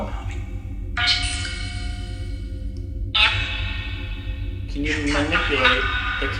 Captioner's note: chanting